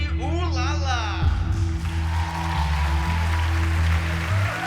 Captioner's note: cheering